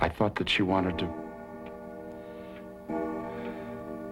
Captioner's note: clock bell ringing